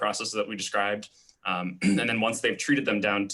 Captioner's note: clearing throat